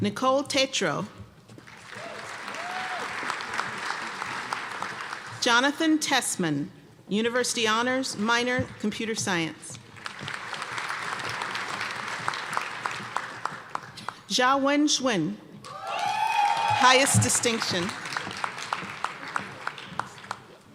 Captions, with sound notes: Nicole Tatro. (applause) Jonathon Tessmann, University Honors, minor Computer Science. (applause) Jiawen Sun. (applause and cheering) Highest distinction. (applause)